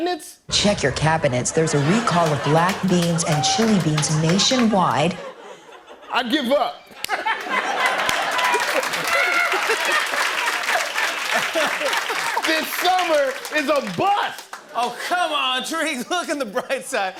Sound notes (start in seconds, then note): 6.9 laughter; 7.4 applause